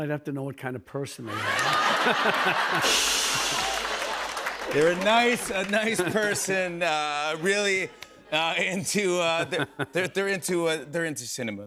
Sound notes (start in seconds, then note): 1.3 laughter; 2.8 cymbal crash